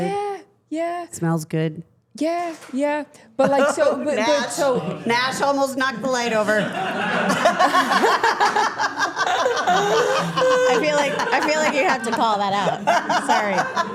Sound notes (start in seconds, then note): 2.8 object clattering; 3.7 chuckles; 6.5 everyone laughing